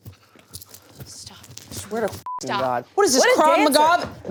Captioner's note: beep